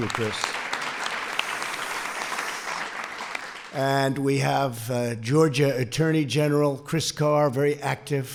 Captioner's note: applause